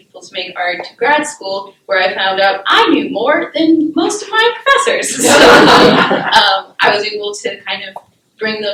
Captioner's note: laughter